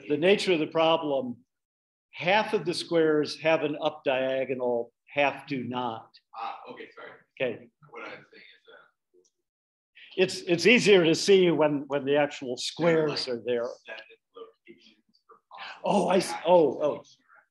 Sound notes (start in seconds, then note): 14.0 speaking away from the mic